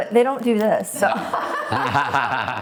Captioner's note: laughing